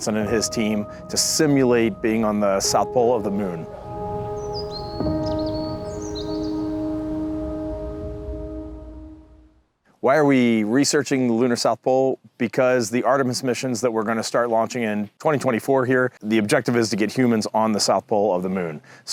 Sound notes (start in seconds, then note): 4.3 birdsong; 4.3 music fades